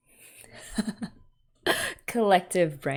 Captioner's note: laughs